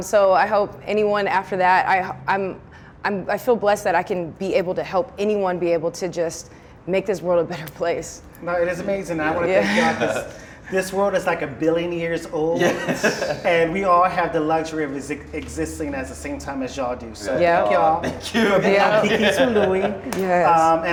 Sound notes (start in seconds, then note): 12.6 laughs